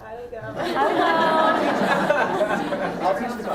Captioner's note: laughter